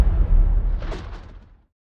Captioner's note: lightning